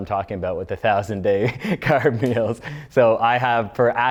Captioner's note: laughs